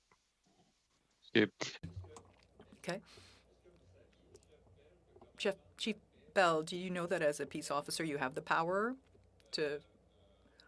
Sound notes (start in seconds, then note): 6.3 speaking French